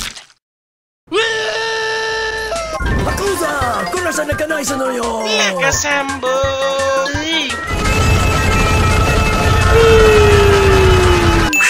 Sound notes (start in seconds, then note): 1.1 screaming; 2.7 Japanese speaking